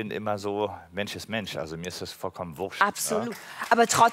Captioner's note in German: Applaus